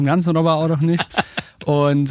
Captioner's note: lacht